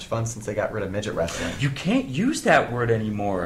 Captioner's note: gasp